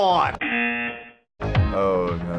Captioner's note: buzzer